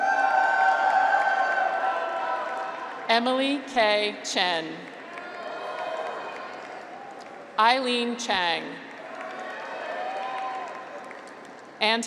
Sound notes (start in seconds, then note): 0.0 graduates cheer; 4.9 graduates cheer; 9.0 graduates cheer